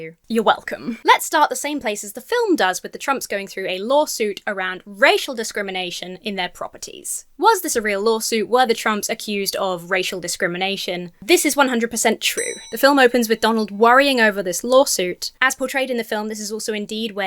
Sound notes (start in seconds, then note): 12.3 bell dings